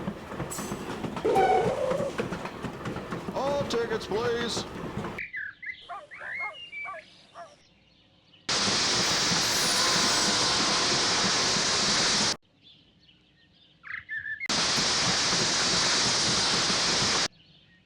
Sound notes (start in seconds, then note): 0.0 birds tweeting; 0.0 dog barking; 5.1 birds tweeting; 5.1 dog barking; 8.5 locomotive engine hisses